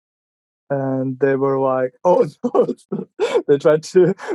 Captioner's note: laughing